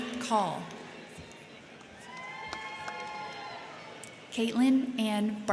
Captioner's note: crowd cheering; crowd clapping